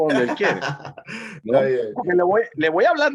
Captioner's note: laugh